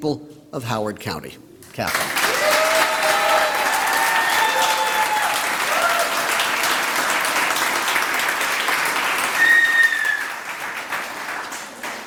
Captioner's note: applause